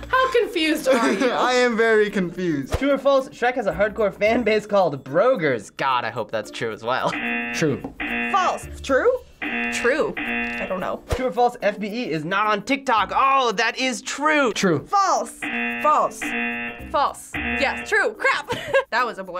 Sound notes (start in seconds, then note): 7.1 buzzer rings; 15.4 buzzer rings; 18.5 laughs